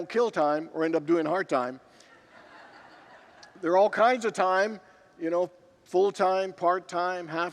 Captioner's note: congregants laugh